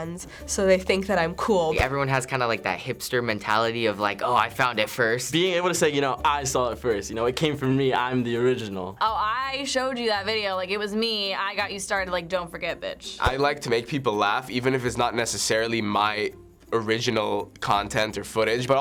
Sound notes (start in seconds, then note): none